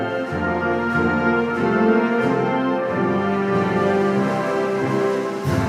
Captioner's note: none